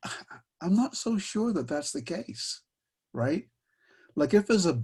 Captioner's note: chuckles